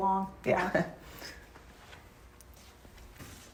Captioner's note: chuckles